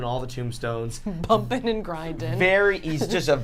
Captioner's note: laughs